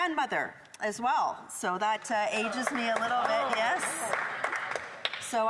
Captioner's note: applause